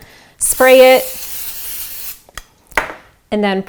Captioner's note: spray can hissing